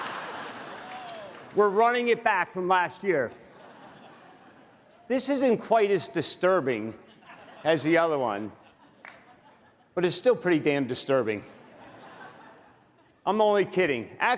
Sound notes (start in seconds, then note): 2.2 laughter